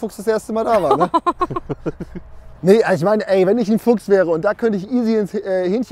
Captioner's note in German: lachen